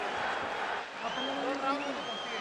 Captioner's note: man speaking spanish